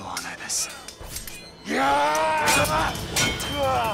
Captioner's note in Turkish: Uranos bağırıyor